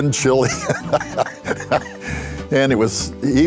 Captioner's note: laughter